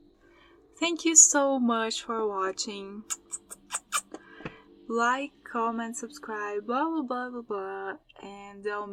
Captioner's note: kiss noises